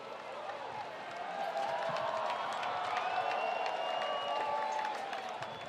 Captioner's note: spectators cheering